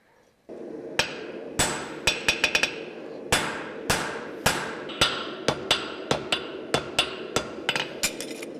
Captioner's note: metallic hammer blows